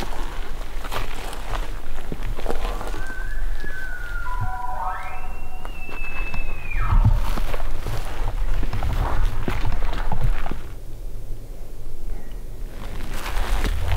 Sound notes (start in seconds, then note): 2.4 elk bugling; 4.5 caller bugling